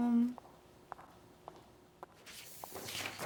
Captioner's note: footsteps pattering; paper rustling